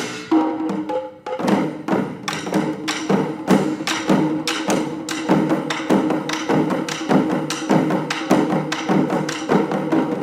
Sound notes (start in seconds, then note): none